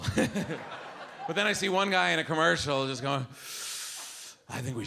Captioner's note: inhales